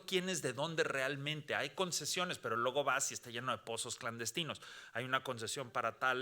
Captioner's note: speaking Spanish continues